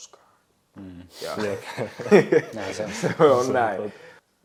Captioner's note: all laugh